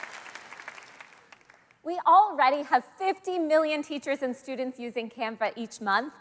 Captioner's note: applause